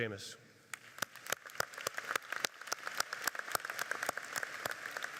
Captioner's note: audience applauding